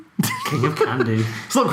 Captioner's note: laughing